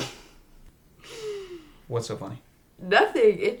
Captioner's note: Sarah snickers